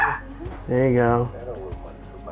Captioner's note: dog barking